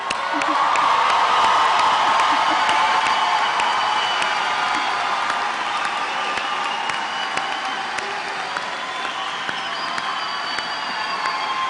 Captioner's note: applause